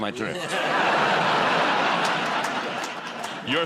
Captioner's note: laughter